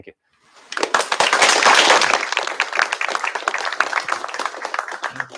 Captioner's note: applause